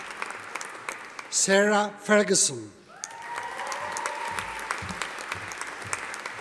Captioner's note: audience applauding